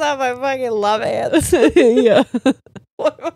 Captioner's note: laughs; all laughing